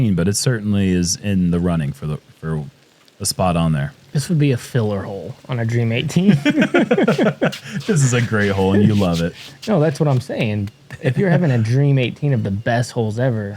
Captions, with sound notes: but it certainly is in the running for a spot on there. -This would be a filler hole on a Dream 18. [laughter] -This is s great hole, and you love it. -No, that's what I'm saying. If you're having a Dream 18 of the best holes ever,